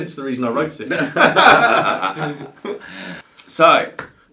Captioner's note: presenters laughing